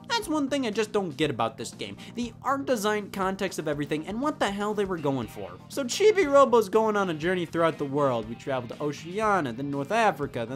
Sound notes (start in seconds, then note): none